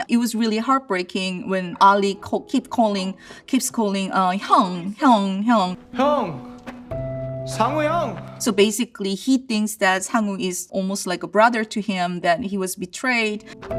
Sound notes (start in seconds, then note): 3.7 she speaks in Korean; 5.8 speaks in Korean